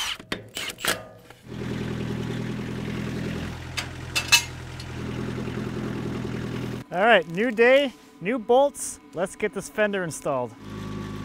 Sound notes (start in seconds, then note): 1.4 motor humming; 11.0 motor humming